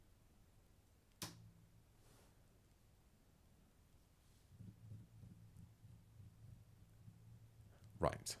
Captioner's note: silence